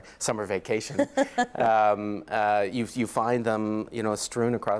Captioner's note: laughs